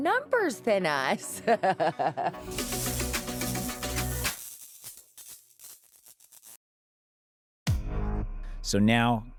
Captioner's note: electricity buzzing